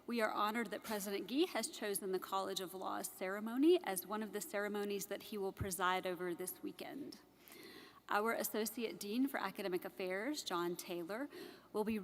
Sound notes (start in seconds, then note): none